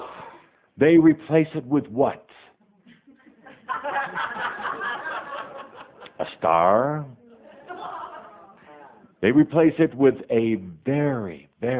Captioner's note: audience laughter